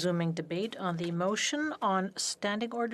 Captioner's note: speaking French